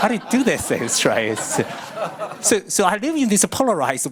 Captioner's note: audience laughing